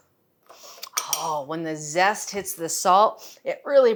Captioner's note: sniffing